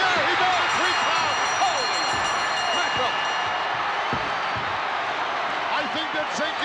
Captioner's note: audience cheering; bell chimes